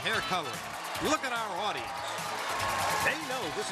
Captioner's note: all shouting